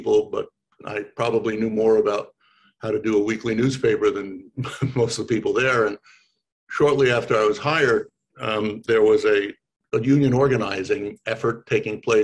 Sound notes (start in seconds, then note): 4.6 chuckles